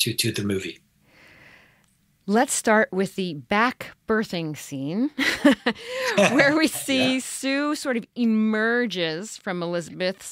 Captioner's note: chuckles